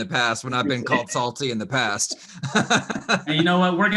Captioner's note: laughs